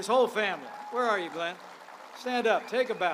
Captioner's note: applause